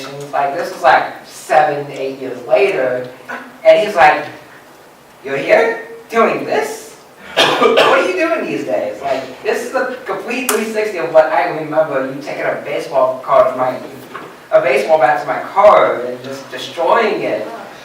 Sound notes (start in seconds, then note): 13.3 gets tongue-tied